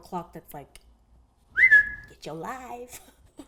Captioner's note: whistles